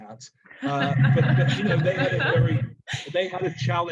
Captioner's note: laughing